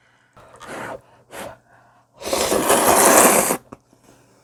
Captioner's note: blowing